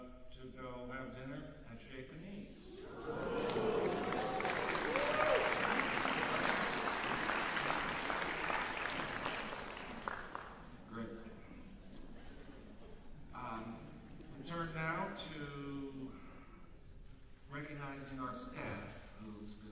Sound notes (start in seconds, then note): 2.7 crowd exclaims; 2.9 applause